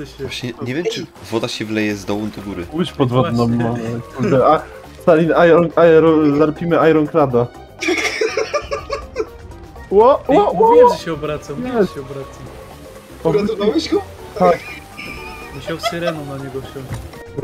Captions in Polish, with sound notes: właśnie... nie wiem czy woda się wleje z dołu do góry łódź podwodną mamy Stalin larpimy Ironclada [intense kek] ło... ło ło ło ej, mówiłem że się obraca uratowałeś go? tak musiał syreną na niego wsiąść